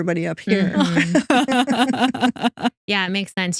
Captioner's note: both Laughing